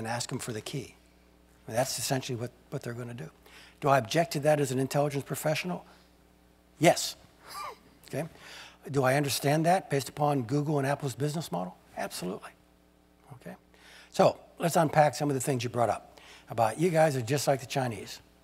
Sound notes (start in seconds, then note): 6.8 laugh